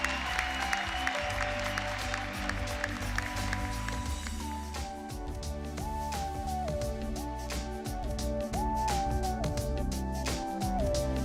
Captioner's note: applause